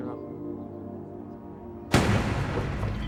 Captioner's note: gunshot